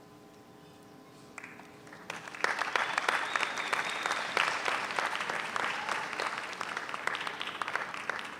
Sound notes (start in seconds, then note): 1.8 audience applauds